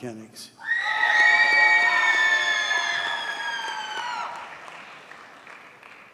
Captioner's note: audience cheers and applauds